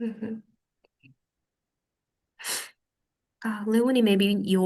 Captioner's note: muted